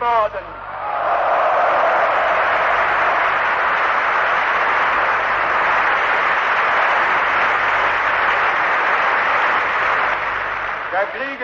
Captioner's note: applause